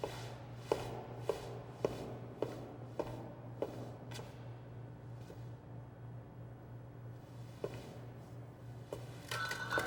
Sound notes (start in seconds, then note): 0.9 footsteps